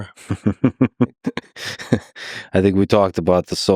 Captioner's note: Lex laughing